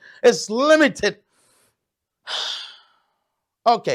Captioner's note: sigh